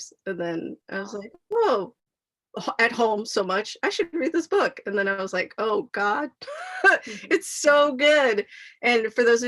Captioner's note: laughs